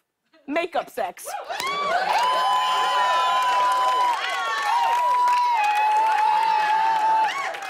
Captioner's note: cheers and applause